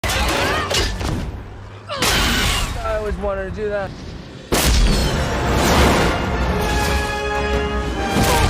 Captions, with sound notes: (metal shatters) - I always wanted to do that. (fast-paced music plays)